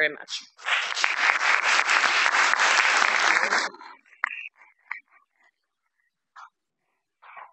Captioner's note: applause